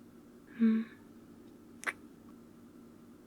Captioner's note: kiss